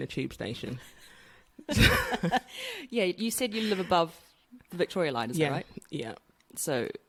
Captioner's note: laughs